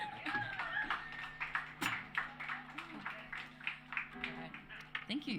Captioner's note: applause